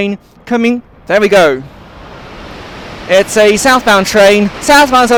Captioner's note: train passes through